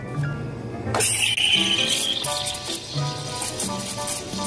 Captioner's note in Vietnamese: tiếng đánh sữa